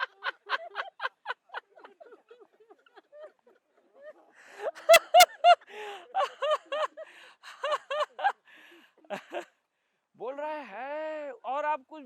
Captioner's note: laughter